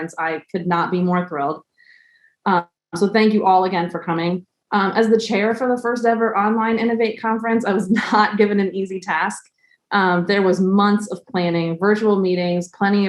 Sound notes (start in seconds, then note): 7.6 laugh